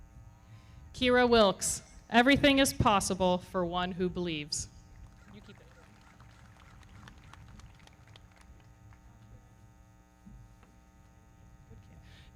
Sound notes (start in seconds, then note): 6.6 everybody clapping